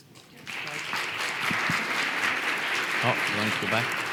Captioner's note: audience applauds